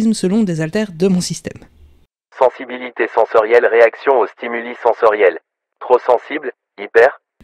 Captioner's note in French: Voix off